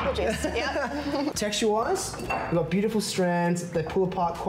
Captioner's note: laughs